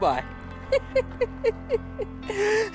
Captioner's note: giggles